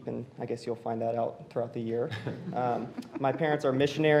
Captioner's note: laughter